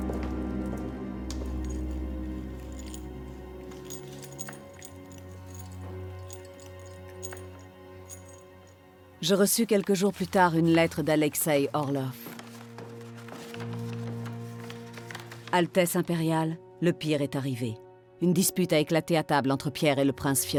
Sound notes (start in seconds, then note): 1.4 metal clinking